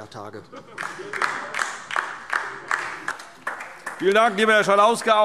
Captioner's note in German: Beifall DIE LINKE und vereinzelt SPD